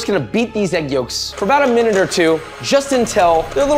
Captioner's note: beater clanking